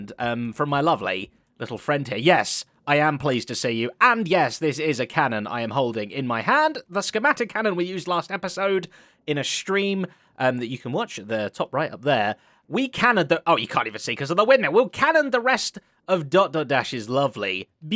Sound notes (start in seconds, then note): none